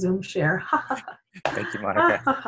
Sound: laughter

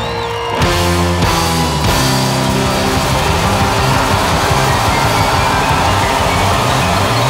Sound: audience cheers; upbeat rock music

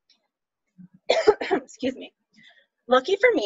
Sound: coughs

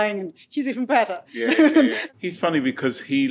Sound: laughing

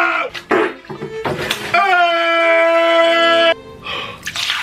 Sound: yelling

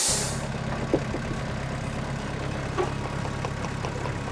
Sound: engine runs

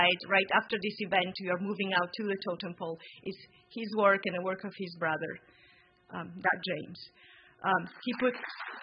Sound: applause

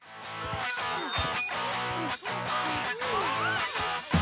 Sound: rock music playing; grunting

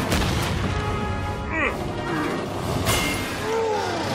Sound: grunting

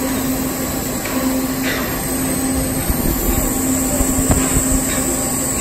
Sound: welding torch sizzling; welding torch sizzling

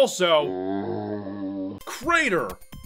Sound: zombie sound

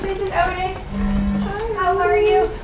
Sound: machine boop

